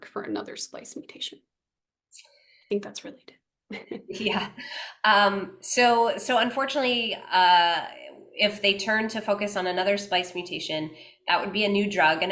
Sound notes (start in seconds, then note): 3.7 laughs